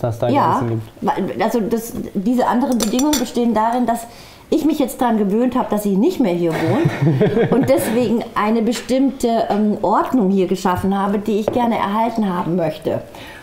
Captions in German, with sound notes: dass es Grenzen gibt? - Ja. Diese anderen Bedingungen bestehen darin, dass ich mich dran gewöhnt hab, dass sie nicht mehr hier wohnt. (Lachen) Deswegen eine bestimmte Ordnung hier geschaffen habe, die ich gerne erhalten haben möchte.